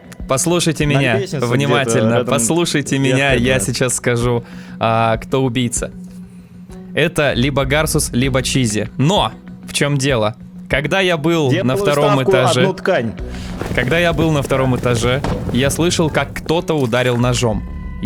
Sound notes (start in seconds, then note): none